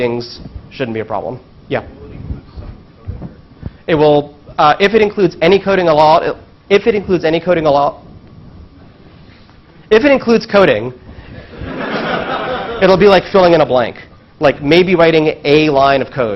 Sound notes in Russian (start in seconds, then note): 11.3 смех